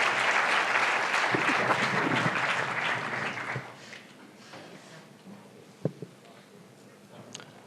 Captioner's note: announcement in german